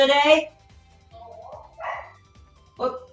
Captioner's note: dog Barks